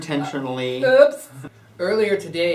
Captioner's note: lisping